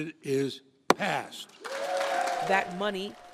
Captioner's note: cheering and applause